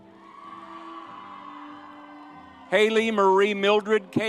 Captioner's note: soft music continues; audience cheers